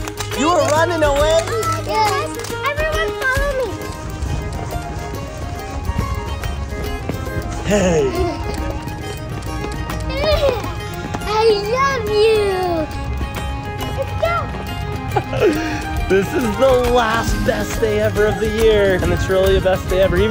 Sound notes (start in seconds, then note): 4.4 upbeat music; 7.5 giggles; 15.0 laughs